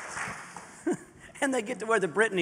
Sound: laughter

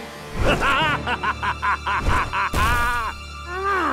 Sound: evil laughter

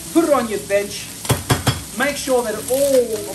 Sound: bangs spaghetti pack

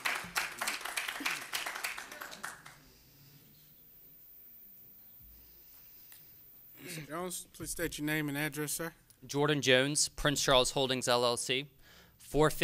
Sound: applause

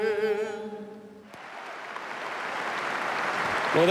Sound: applause

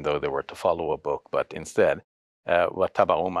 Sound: speaks foreign language

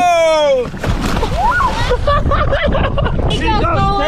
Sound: water splashing

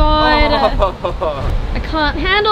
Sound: laughs

